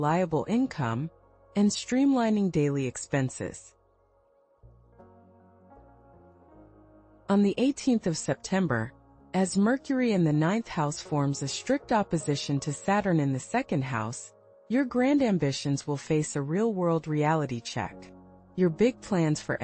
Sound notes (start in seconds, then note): 5.1 pause